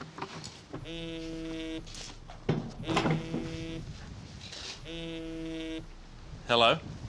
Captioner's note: phone vibrates